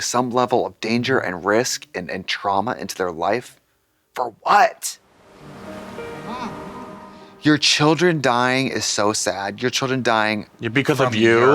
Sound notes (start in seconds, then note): 5.1 melancholy music; 5.3 waves crash